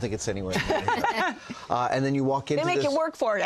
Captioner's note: laughter